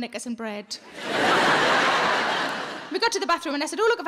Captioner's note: audience laughing